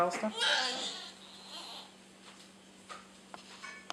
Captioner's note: child fussing